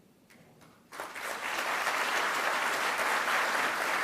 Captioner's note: audience clapping